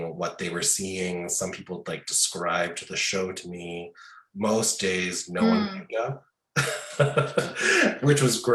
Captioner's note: laughing